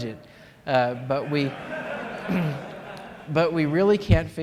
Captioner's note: laughter